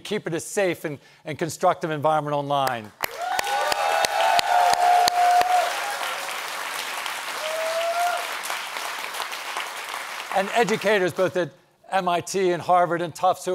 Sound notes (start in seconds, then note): 3.0 audience applauds